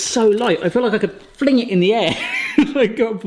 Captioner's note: laughs